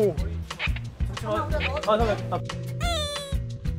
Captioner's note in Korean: 낑낑